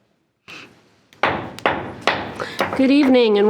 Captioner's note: gavel pounding